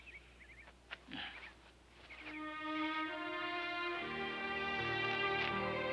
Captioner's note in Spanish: suspiro; música triste